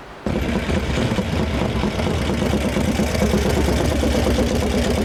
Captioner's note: motor engine slowing down